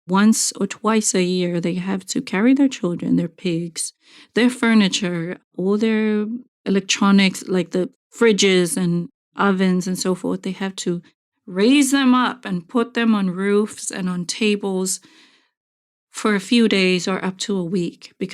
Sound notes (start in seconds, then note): none